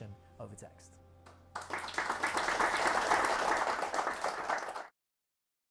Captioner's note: audience clapping